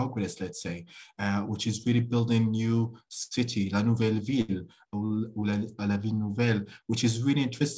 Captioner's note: speaking french